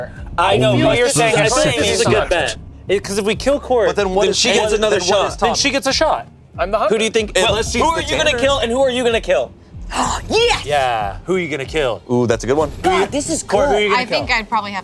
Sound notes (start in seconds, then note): 9.8 gasps